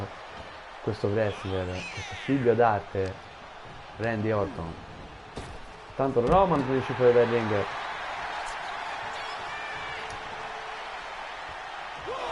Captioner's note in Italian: Applauso